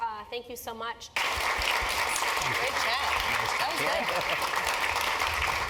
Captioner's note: applause